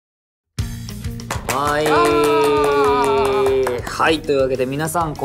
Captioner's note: clapping in background